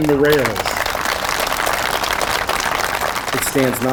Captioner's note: crowd clapping